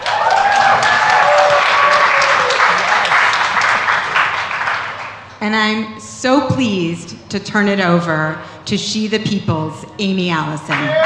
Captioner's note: cheers and applause